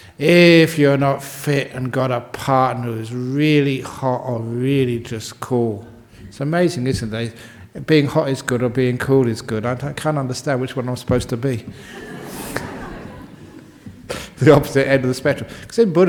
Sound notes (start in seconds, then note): 11.7 laughter